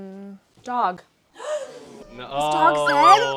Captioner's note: gasps